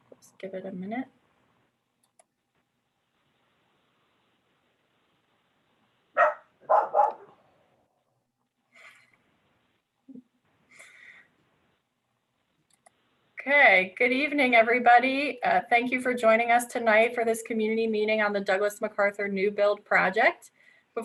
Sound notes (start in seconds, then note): 6.1 dog barking